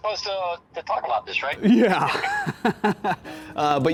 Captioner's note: laughs